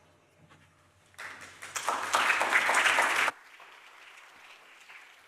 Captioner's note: audience applauding